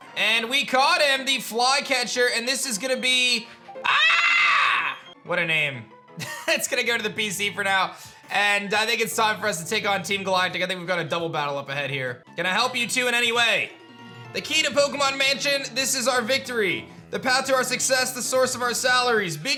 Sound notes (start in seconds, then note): 6.2 chuckles